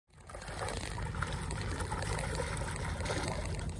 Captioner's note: water splashing